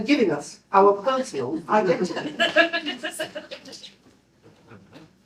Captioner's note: laughter